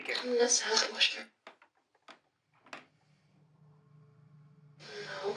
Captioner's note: box mutters